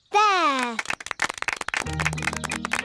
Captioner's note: applause